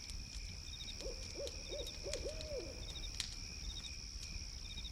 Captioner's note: owl hooting